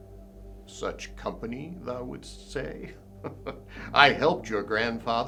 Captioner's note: chuckles